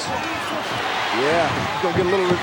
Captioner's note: audience cheering